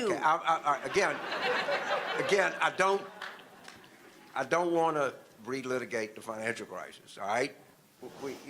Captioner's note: audience laughter